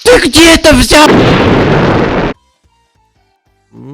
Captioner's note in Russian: Взрыв